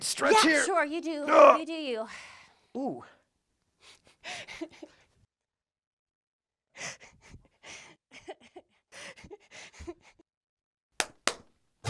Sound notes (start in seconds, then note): 3.9 laughing; 11.0 claps